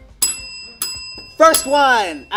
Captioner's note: bell rings